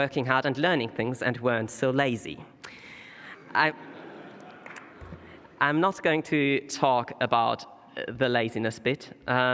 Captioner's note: laughter